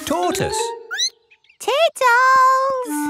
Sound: squeaks

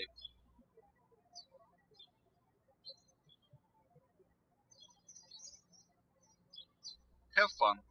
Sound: bird chirping

